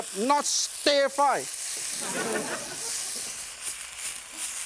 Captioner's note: laughter